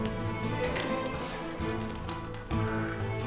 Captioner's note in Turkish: Kapı açılma sesi